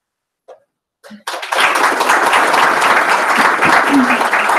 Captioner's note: applause